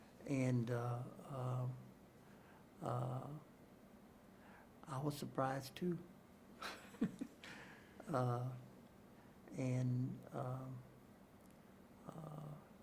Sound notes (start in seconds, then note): 6.6 chuckles